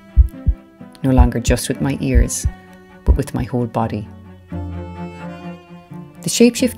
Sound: sound effect over cello music: heartbeat

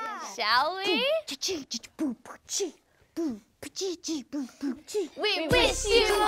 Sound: beatboxing

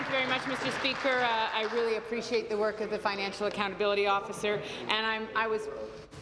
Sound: applause

